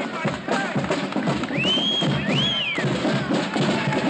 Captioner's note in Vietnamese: Tiếng huýt sáo